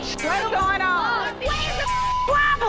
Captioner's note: beep